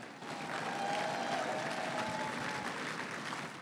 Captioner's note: crowd cheering and applauding